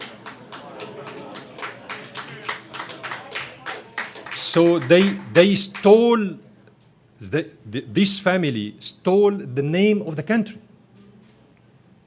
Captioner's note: laughter